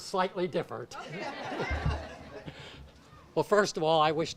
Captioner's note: audience laughs